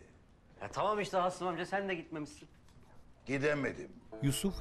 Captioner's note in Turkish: none